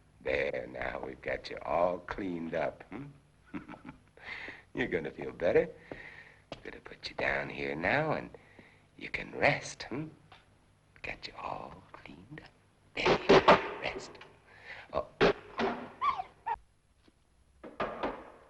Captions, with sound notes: There, now, we've got you all cleaned up, huh. (chuckles) You're gonna feel better. Gonna put you down here now, and you can rest, hm? Got you all cleaned up. (boards banging) Rest. (dog barking)